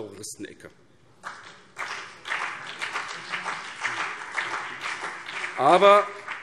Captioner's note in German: Beifall BÜNDNIS 90/DIE GRÜNEN und CDU